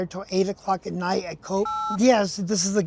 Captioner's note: phone buttons beeping